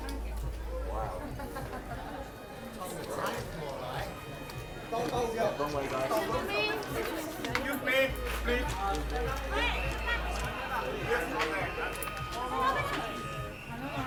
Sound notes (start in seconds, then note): 2.7 OMG Train sound~!